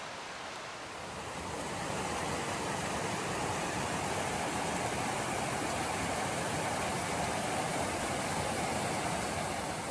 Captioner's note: loud rush of water falling down a narrow chute